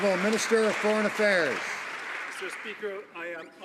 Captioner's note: some Applause